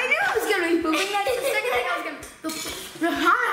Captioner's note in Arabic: يضحك